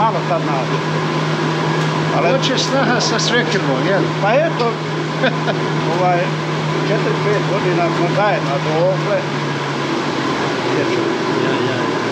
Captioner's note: laugh